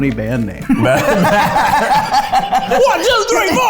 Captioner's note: laughing